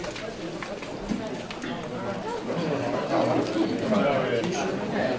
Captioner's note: crowd background chatter